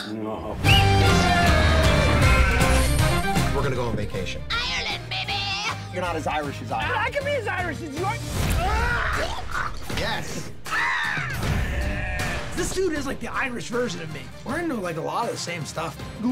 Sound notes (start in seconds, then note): 0.6 blows whistle; 4.5 bad irish accent; 8.5 screams; 8.7 retches; 10.5 caws